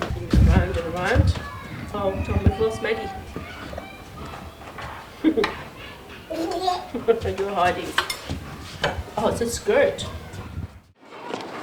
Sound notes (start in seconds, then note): 5.0 chuckles; 5.0 giggles